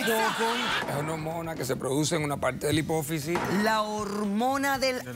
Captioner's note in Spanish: risas